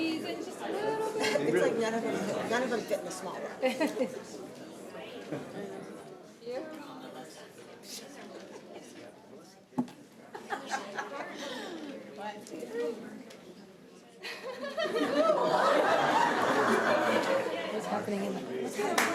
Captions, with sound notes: Squeeze in just a little bit. It's like none of them fit in the small row. (indistinct conversation) (laughter)